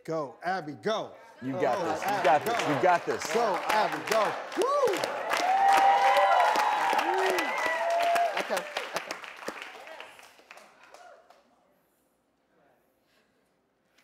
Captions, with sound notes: - Go, Abby, go. - You got this, you got this. - Go, Abby, go. - Go, Abby, go. (clapping) (cheers) - Okay, back up.